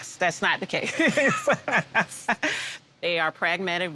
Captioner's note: laughing